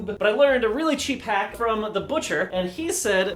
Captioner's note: none